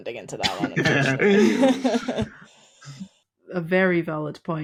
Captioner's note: group chuckling